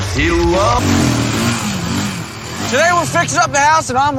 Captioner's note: vroom